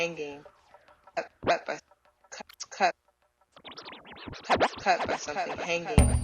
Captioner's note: tape rewinds